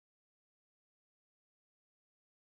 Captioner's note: none